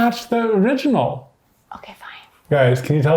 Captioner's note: whispering